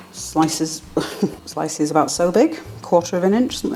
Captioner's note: laugh